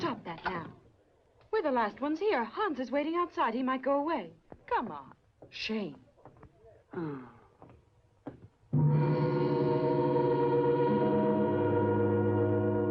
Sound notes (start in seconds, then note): 6.9 sighs; 8.7 dramatic orchestral music